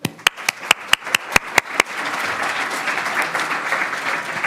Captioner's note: audience applauds